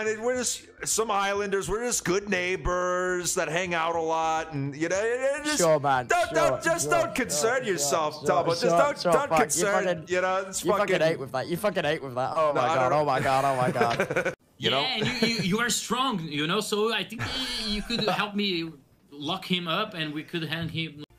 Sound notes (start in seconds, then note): 5.3 stammers; 13.0 laughs; 20.5 laughs